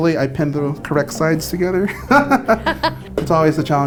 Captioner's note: laughs